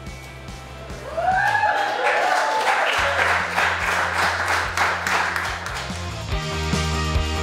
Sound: cheering & Clapping

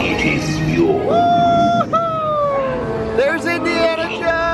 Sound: cheering

